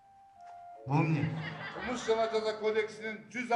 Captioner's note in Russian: смех в зале